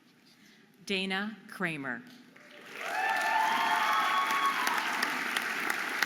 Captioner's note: audience applauding and cheering